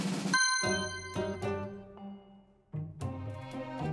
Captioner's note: drum roll; dings